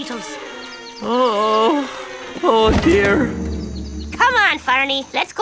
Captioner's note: moaning